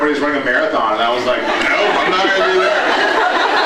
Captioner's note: laughs